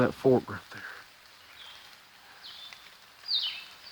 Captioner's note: bird chirps